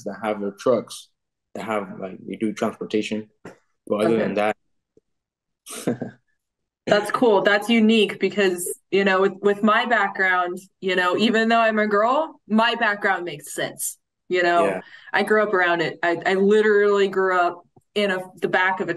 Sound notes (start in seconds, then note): 5.7 laughing